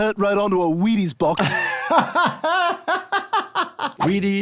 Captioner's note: laughs